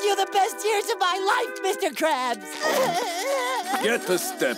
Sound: crying

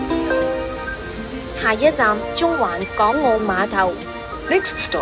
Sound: Cantonese

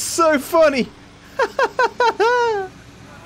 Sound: laughs

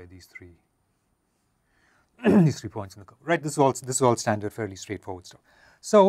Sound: cough

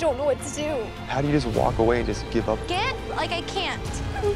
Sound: sobs

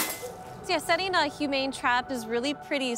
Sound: cage clinks shut

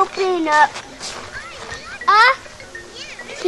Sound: voiceover

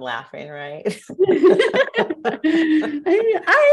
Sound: laughter

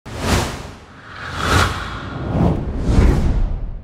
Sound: swooshes

